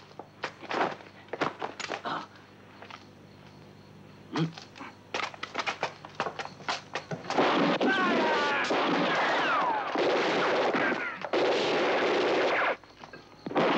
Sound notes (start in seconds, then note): 0.1 shuffling; 5.2 shuffling feet; 5.4 guns blasting